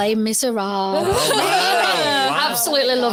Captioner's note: audience laughs